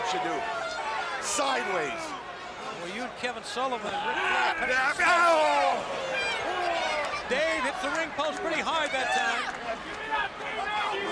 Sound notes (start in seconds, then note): 5.2 crowd chatter; 10.9 crowd chatter